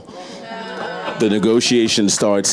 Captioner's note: audience cheering